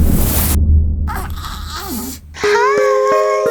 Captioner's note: intense music; baby crying; lullaby music